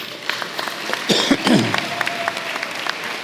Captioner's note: applause